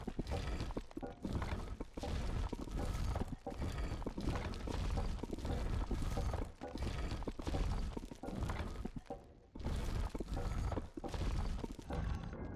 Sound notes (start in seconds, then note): none